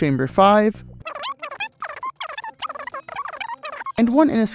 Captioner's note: fast forwarded speech